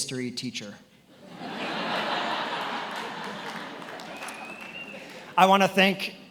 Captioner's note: attendees laughing and applauding